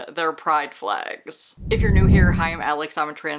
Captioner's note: whoosh